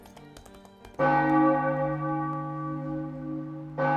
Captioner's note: bell tolls